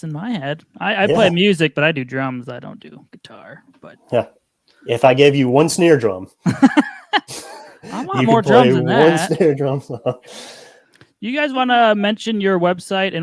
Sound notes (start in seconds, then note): 6.4 laughs; 6.4 chuckles